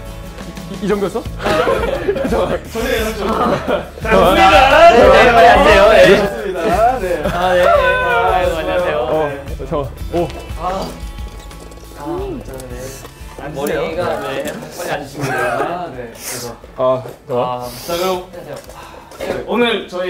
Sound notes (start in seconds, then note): 4.4 excited